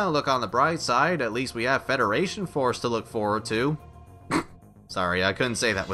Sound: snigger

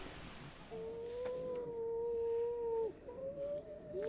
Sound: seals calling

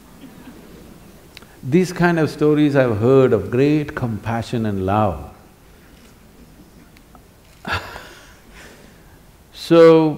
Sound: laughs

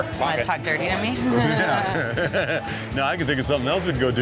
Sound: chuckling

